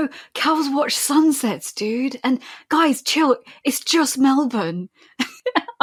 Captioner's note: laughing